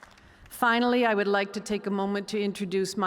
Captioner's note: cheers and applause